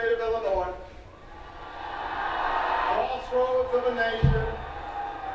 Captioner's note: more audience cheering